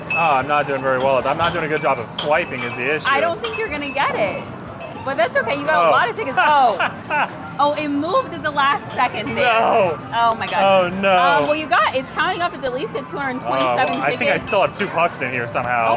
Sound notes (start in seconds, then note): 6.3 laughing